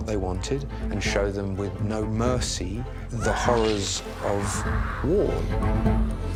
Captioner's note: screams